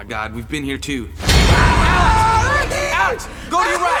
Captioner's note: screaming